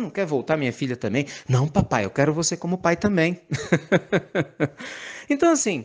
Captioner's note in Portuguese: risadas